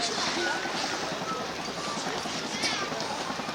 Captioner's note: helicopter sounds